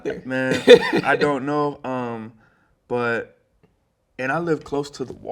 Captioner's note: laughing